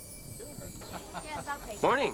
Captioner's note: laughing